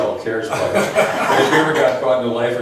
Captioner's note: laughs